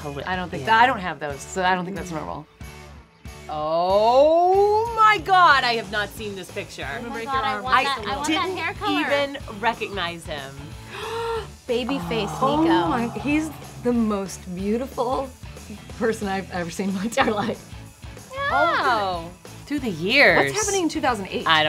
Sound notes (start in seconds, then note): 11.8 gasping